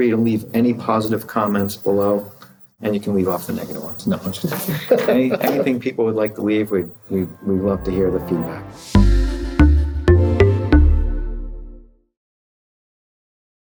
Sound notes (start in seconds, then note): 4.2 laughing; 8.7 upbeat music